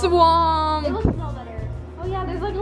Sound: child's Voice

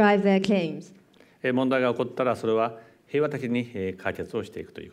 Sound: speaking japanese

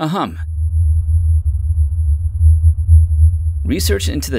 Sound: soft humming

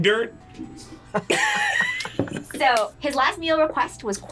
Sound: both laugh

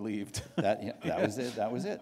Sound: chuckle

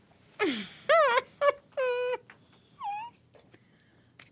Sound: laughs

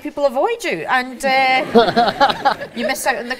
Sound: audience and matt laughs

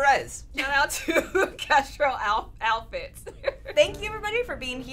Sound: laughs

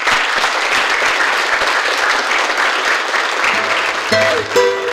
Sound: applause

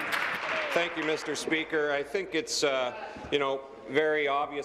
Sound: applause

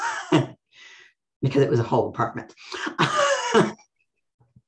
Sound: laughs; laughs

